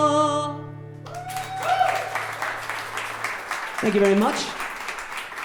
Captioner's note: audience cheering